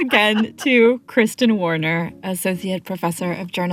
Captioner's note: laughter